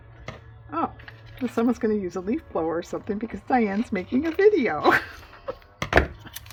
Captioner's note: laughs